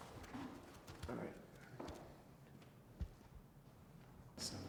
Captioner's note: whispers